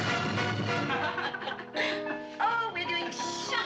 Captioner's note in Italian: risata